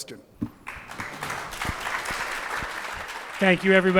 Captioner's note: audience clapping